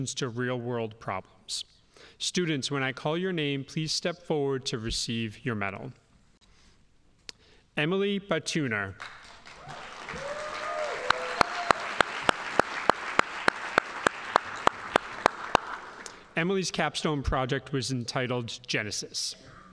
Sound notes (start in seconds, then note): 9.0 audience applauding